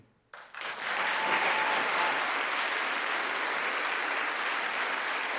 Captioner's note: audience applauding